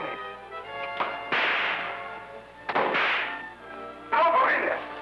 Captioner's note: whip cracking